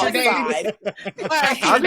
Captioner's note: laughter